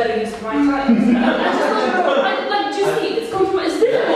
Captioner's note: audience laughing